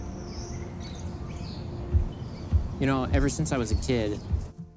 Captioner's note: birds chirping